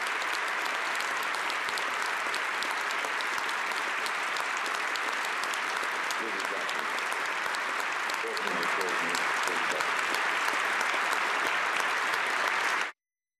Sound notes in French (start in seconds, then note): 0.0 applaudissements; 2.3 applaudissements